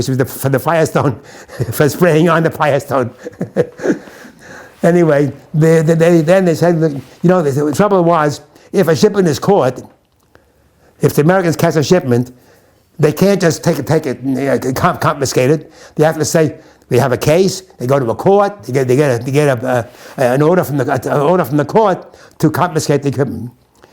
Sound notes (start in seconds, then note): 2.9 laughs